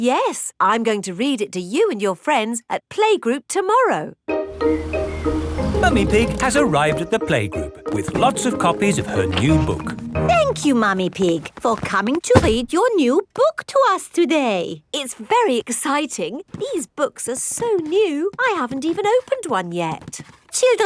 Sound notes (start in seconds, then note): none